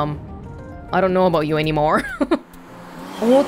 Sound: chuckles

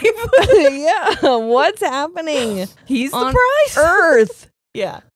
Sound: laughs

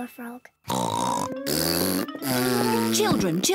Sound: blows raspberry; oinks

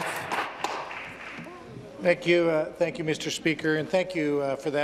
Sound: some Applause

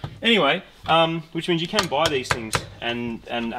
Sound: taps

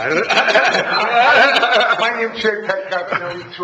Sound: all laughing

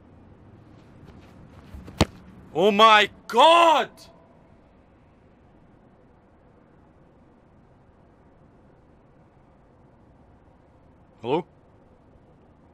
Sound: silence

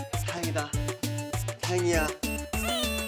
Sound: crying

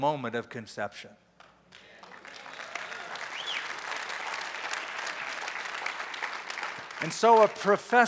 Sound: applause

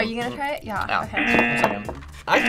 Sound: buzzer rings

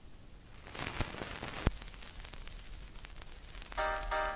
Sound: audio Crackle

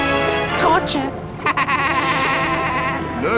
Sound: laughing

